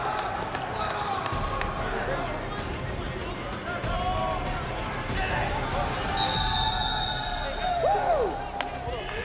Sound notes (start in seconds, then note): 5.8 cheers; 6.1 whistle